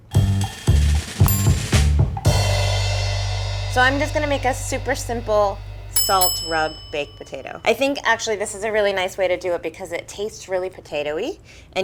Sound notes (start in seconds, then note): 0.0 jazzy upbeat music; 4.0 bell dinging